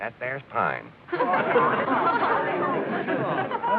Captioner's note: excited chatter